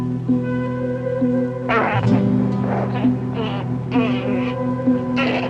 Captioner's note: baboon chattering